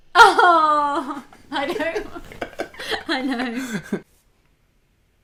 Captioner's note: laughter